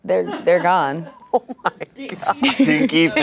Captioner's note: laughs